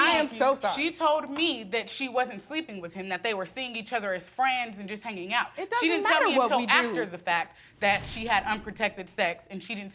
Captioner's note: none